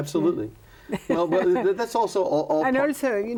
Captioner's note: laughs